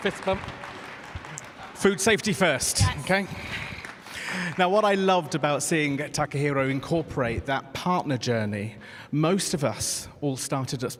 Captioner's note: cheers and applause